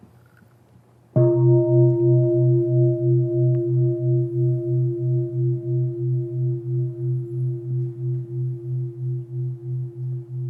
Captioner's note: bell